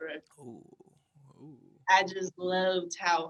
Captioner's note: exclaiming